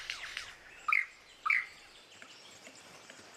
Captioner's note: mimics mechanical sound; chirps